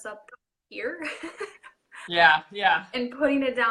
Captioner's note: laughing